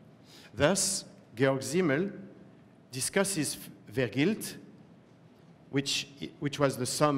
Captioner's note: german